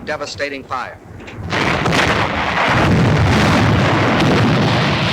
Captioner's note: bombs exploding